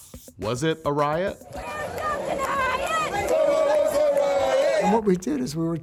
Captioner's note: protesters chanting